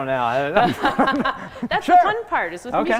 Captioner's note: laughing